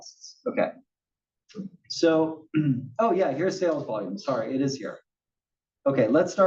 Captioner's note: cough